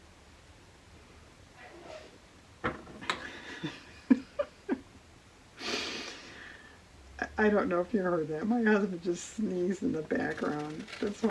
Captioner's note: laughs